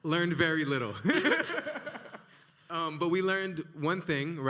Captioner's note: both laughing